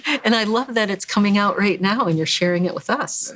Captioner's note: laughs